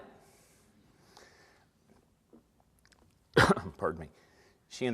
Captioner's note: coughs